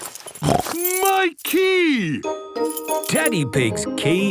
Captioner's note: snorts